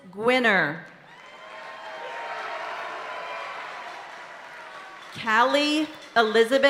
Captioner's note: audience cheering and applauding continues